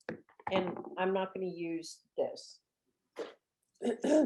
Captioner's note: clears throat